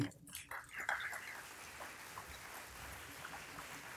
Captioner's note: applause